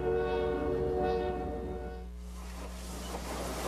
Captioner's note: train hoots